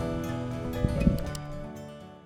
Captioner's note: computer mouse click